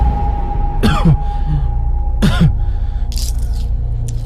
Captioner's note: coughs